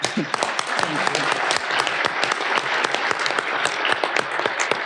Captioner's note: audience applauding